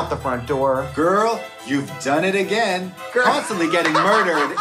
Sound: Trixie laughing

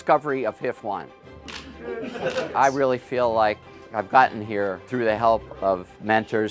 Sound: camera flashes

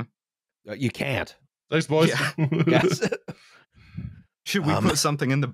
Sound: laughs

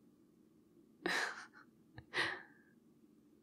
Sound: laughs

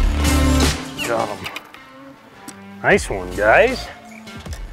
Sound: sighing

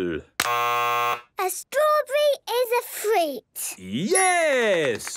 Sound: buzzes; clapping

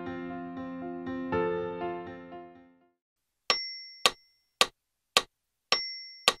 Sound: metronome

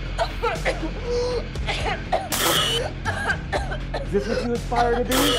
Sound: coughing

